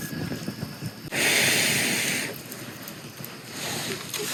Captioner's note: blowing air onto fire